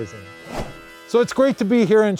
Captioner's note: swooshes